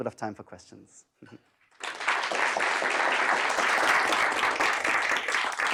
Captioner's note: applause